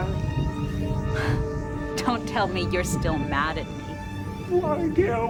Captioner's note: laughs